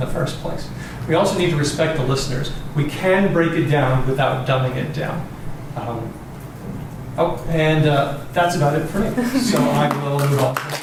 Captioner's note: applause